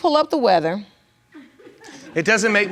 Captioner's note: laughter in the audience